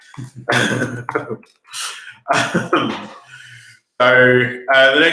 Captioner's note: laughing